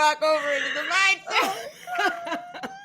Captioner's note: all laughing